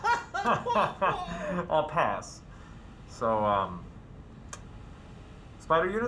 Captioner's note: hearty guffaw; polite, tired guffaw